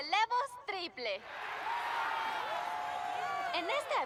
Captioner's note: cheers